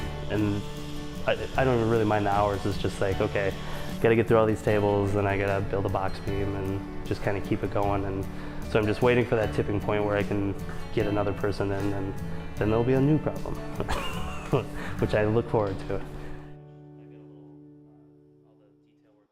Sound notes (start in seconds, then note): 13.8 chuckles